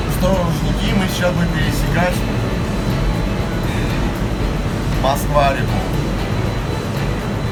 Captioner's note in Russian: вздыхаю